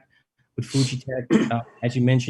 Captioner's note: chair clears throat; clears throat